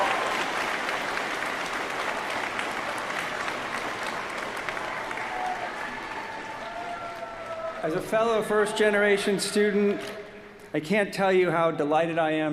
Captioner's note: applause